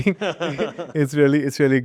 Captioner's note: laughing